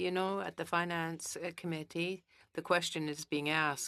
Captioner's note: speaking in French